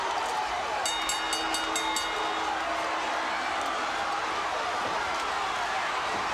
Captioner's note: crowd cheering; bell dinging; crowd cheering